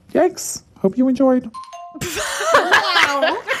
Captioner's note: bingbong